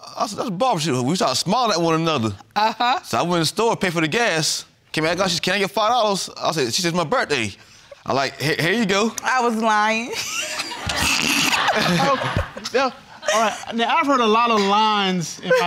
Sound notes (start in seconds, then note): 10.2 all laughing